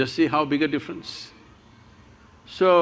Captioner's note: none